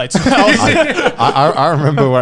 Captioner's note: laughing